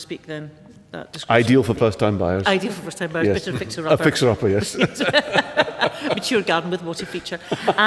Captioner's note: laughs